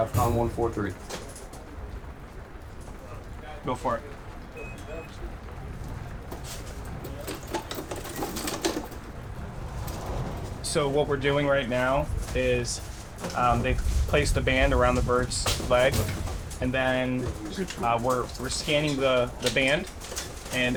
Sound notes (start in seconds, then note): 4.4 machine beeping